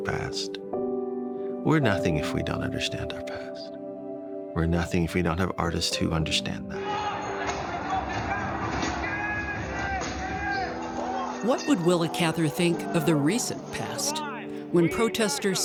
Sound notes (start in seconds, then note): 0.8 ethereal music; 10.4 mob clamors